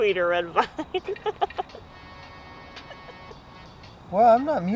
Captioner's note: Louise laughs